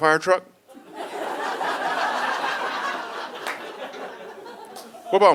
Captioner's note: audience laughing